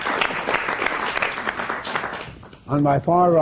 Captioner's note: applause